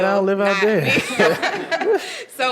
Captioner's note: laughter